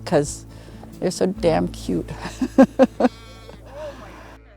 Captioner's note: laughs